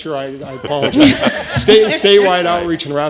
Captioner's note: laughing